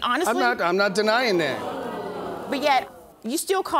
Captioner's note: audience exclaiming